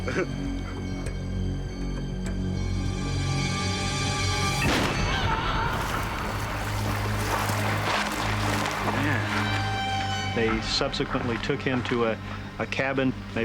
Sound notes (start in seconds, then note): 4.6 gun shot; 4.9 screaming